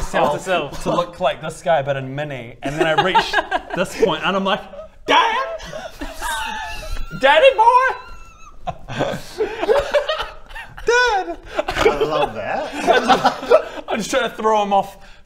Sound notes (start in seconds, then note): 9.6 over-confident giggles